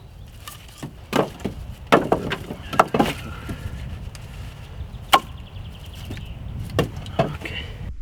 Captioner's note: footsteps